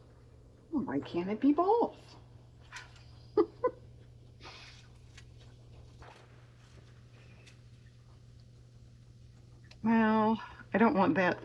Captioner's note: laughs